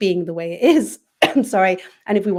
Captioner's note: cough